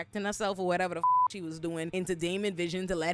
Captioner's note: beep